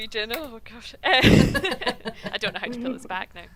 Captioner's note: doctors laughing